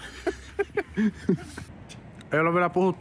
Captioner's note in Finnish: naurahduksia